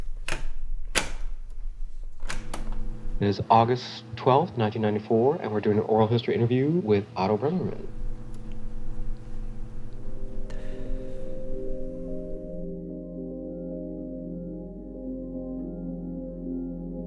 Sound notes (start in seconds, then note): 0.1 cassette tape being placed in tape recorder; 2.8 tape recorder button pressed; 11.8 blowing smoke; 13.5 gentle music